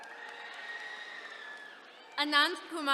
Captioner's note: attendees cheering